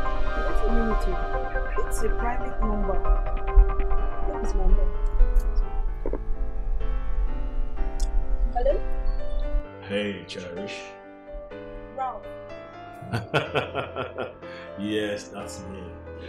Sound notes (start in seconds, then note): 13.0 laughs